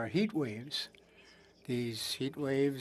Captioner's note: speaking French